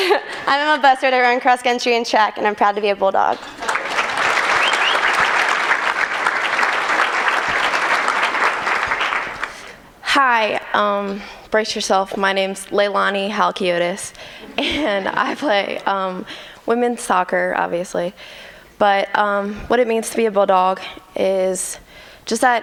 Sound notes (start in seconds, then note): 3.5 applause